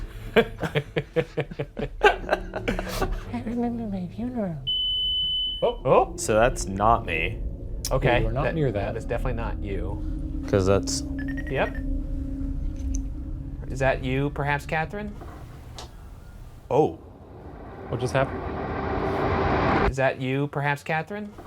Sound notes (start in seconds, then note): 0.1 all laughing; 4.6 tone beeping; 10.9 tone beeping; 15.0 shuffling; 18.4 ominous music